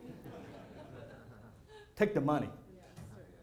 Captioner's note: laughter